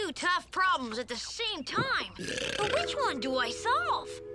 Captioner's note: Otto burps